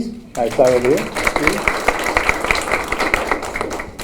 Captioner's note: applause